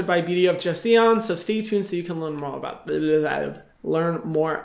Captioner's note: Hyram mumbles